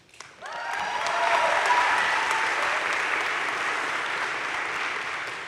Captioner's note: crowd cheering and applauding